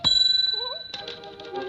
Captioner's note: Olive humming; typewriter keys clacking; typewriter dinging; typewriter keys clacking